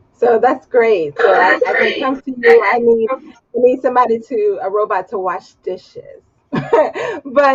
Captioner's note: laughs